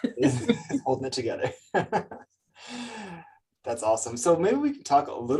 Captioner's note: laughs